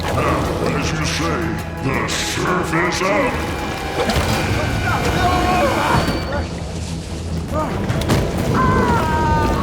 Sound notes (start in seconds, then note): 4.5 Shaz and Walter shouting